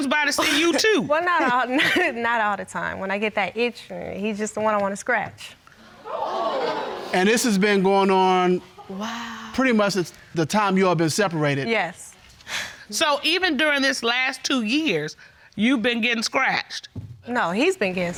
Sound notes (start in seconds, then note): 0.3 chuckles; 6.6 audience gasping; 13.0 sighs